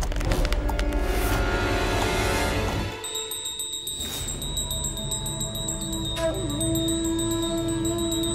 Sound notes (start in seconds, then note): 2.9 bell ringing